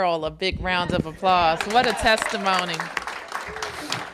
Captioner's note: applause